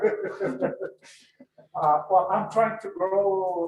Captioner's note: laughs